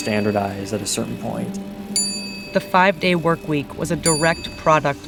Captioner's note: soundbite of bell chiming